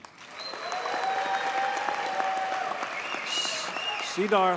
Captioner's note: audience cheers and applauds